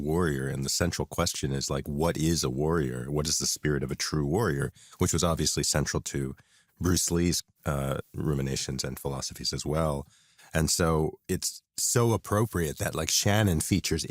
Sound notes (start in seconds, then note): none